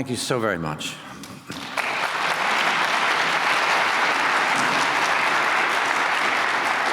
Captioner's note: applause